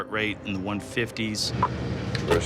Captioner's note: slam